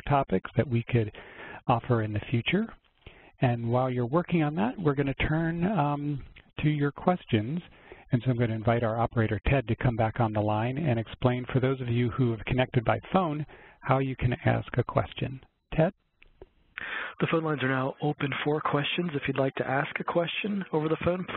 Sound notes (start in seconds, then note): 17.1 voiceover